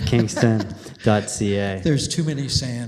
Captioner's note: laughter